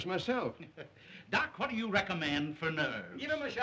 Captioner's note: laughing